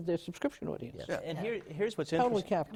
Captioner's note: general assent